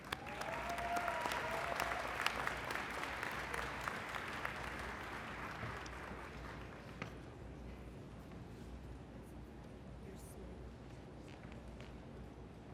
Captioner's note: applause